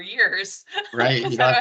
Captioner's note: laughing